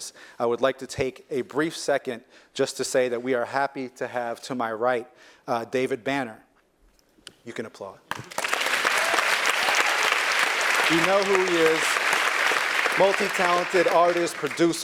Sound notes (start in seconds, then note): 8.0 applause; 9.1 laugh